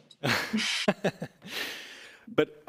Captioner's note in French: rires